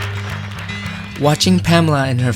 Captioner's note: clapping